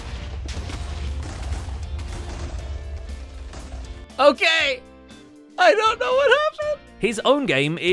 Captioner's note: explosions; more explosions